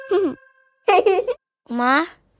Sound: laughing

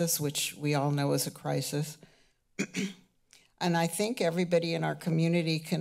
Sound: clears throat

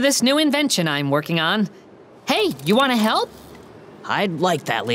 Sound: none

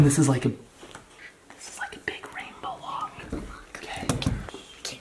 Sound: starts whispering

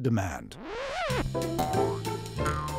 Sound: record scratches; boing, boing

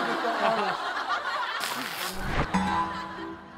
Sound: laughing

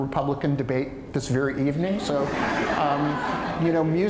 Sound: audience laughter

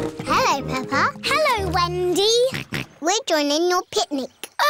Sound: snorts

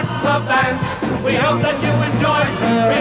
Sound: horn honking

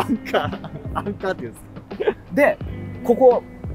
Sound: laughing

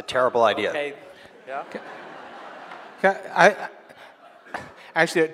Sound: audience laughing

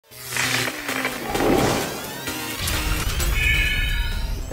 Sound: sound Effects

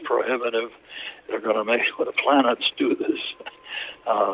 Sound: laughs

